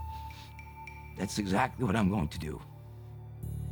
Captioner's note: voice trembles